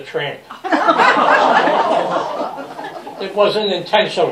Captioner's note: laughter